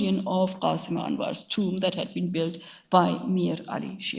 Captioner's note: speaks in a foreign language